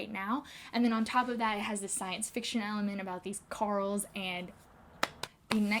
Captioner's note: claps